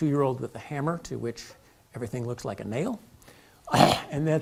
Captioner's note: cough